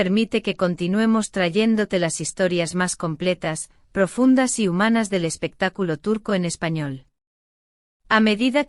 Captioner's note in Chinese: 西班牙语